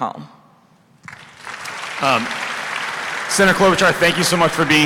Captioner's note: applause